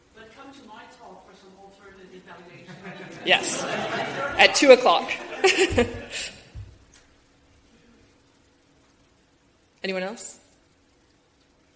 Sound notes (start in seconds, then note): 2.5 audience laughing; 5.6 laughs